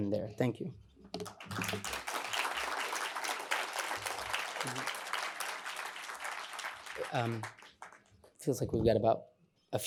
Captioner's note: applause